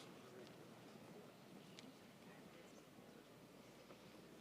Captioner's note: none